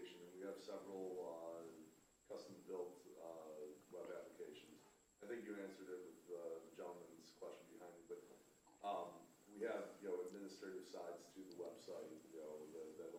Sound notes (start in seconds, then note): 7.8 faintly speaking